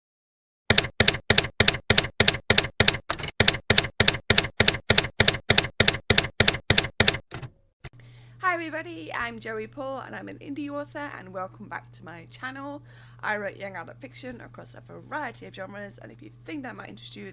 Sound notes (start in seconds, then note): 0.7 typewriter keys clacking